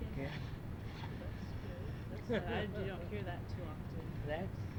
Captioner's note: laughs